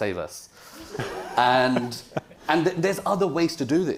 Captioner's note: audience laughing